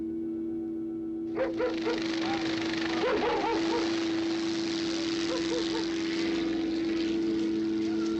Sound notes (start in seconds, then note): 1.3 engines running